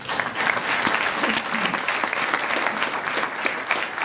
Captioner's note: applause